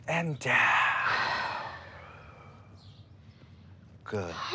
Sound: exhaling

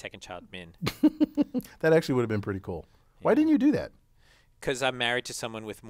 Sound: laugh

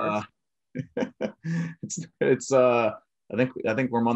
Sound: chuckles

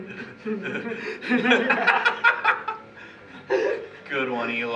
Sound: laughing

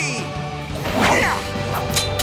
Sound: grunting

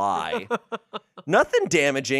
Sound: laughs

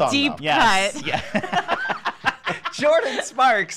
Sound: hosts laugh

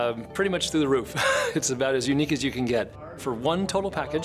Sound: laughs

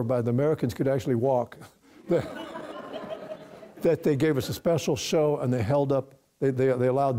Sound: audience breaks out in laughter

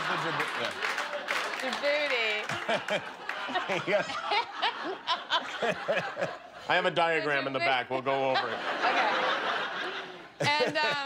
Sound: laughter

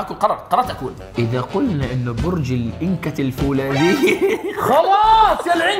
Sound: laughs

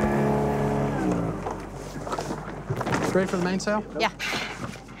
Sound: motor engine cuts out

